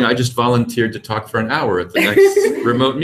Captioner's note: laugh